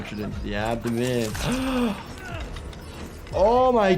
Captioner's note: gasps